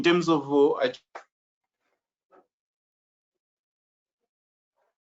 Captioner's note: mic cracking